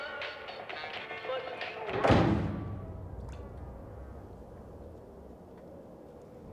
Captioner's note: loud slamming